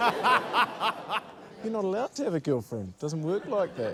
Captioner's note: laughter